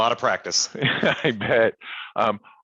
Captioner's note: chuckles